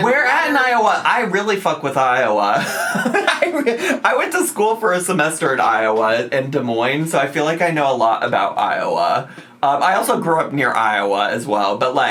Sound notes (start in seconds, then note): 2.6 laughs